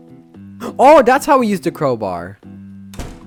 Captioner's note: gasps